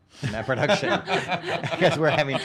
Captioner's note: laughing